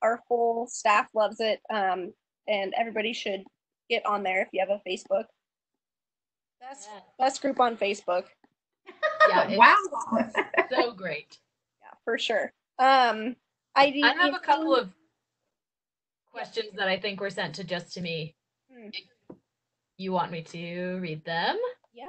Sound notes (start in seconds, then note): 8.8 laughter